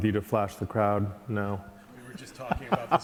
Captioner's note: laughing